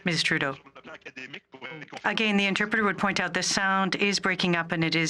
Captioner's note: speaking French